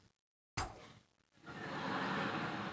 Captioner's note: poof; laughter